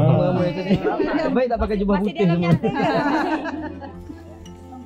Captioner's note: laugh